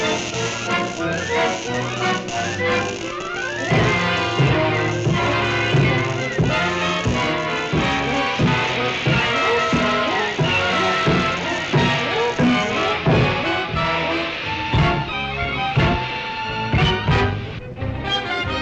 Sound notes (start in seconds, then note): 4.3 dramatic music; 4.3 footsteps thudding; 9.3 dramatic music continues; 9.3 fire whooshing